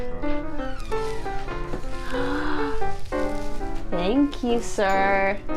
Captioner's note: gasps